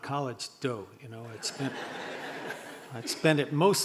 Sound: audience laughing

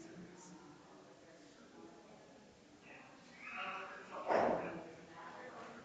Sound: people chattering distantly continues

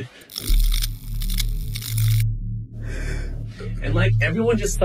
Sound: electricity crackling loudly

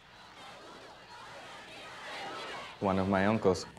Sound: protestors chant

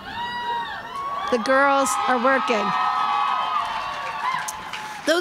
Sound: crowd cheering

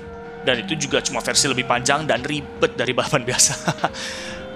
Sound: laughing

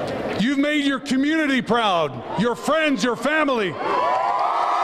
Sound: cheers and applause

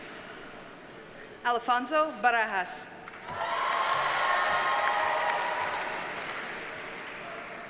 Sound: audience cheers and applauds

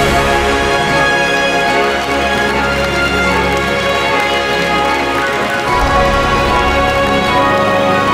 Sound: applause

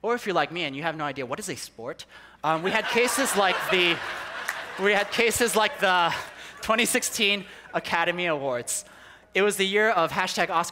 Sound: people laughing

